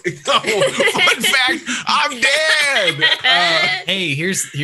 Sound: laughs

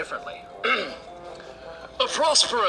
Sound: clears throat

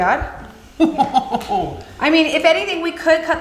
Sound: dad laughing

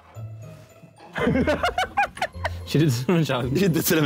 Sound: men laughing

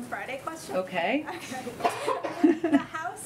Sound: laughs

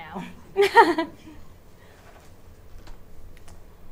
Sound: chuckles

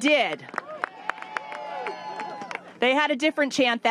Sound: applause

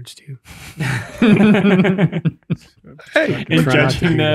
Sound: all laughing

